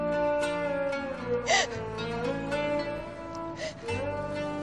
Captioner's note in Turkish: Ağlama sesi duyulur